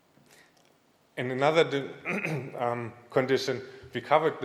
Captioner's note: clears throat